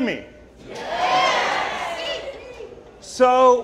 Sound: audience cheering

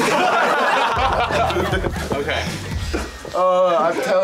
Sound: crowd laughs

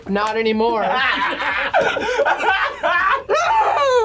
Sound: both laugh

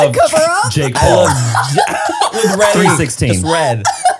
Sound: everyone laughs

